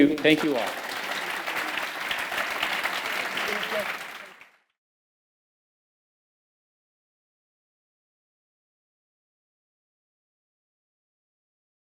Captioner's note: applause